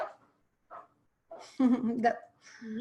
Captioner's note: laughs